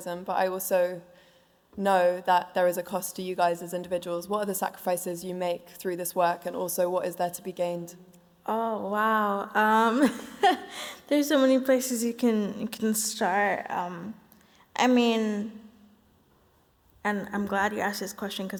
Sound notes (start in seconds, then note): 9.7 laughs